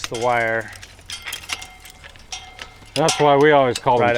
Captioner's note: metal clunking